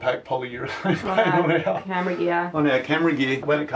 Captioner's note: laughs